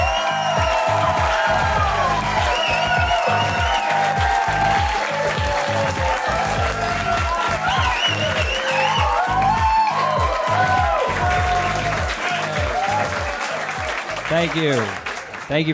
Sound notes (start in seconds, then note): 6.1 applause